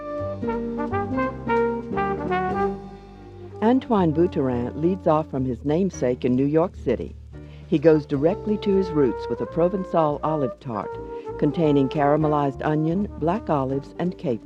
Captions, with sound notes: (light music) - [Voiceover] Antoine Buteran leads off from his namesake in New York City. He goes directly to his roots with a provencal olive tart, containing caramelized onion, black olives, and capers.